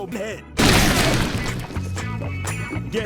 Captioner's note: gunfire, Explosion